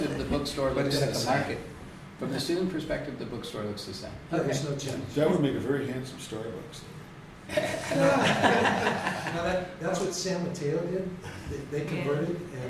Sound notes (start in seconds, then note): 7.5 laughter